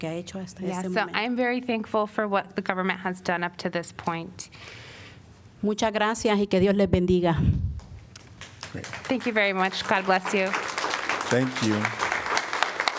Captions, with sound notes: I'm very thankful for what the government has done up to this point. Thank you very much. [APPLAUSE] God bless you. Thank you.